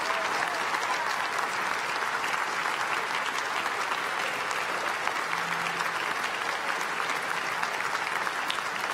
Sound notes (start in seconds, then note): 5.3 applause